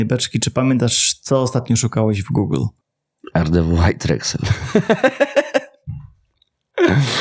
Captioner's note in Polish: śmiech